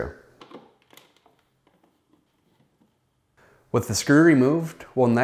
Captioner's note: unscrewing sound